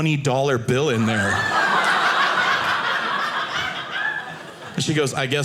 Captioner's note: audience laughing